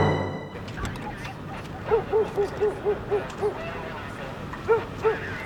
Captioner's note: police chattering